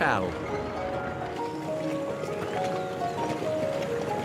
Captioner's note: truck rumbles